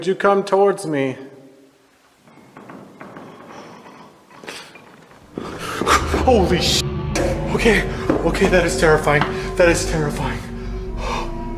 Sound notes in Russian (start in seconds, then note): 2.0 скрип пола